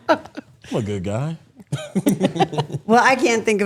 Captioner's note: chuckles